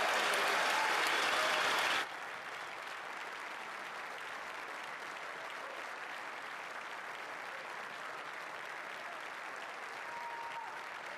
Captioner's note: applause; cheering